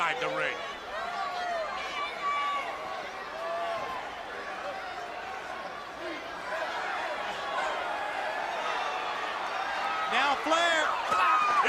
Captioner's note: crowd chatter